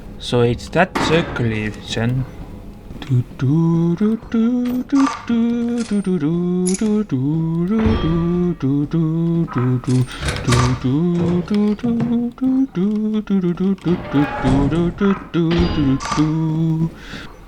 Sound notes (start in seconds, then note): 2.9 humming